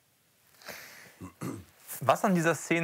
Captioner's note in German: Räuspern